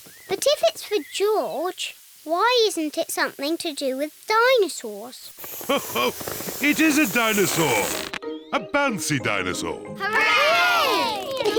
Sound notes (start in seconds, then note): 5.6 laughs